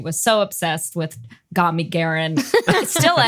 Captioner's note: laugh